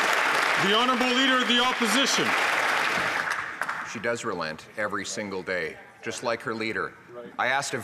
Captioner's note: some Applause